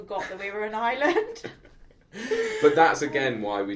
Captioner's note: both chuckle